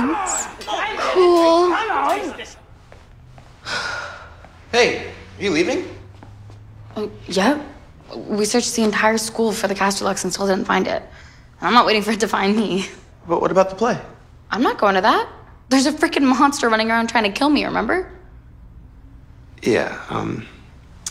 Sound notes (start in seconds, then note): 3.6 sigh